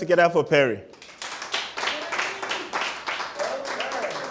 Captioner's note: applause